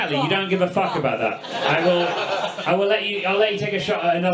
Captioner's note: audience laughs